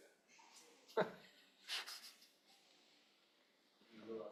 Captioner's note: chuckles